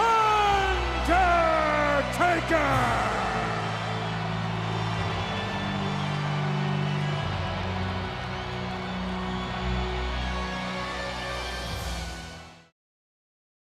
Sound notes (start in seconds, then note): 2.3 ominous music continues; 3.1 audience cheers